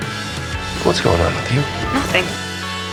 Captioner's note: voiceover